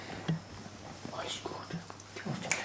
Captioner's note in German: leise